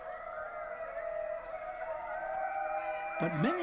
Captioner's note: distant eerie howls